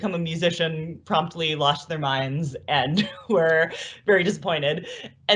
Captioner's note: laughs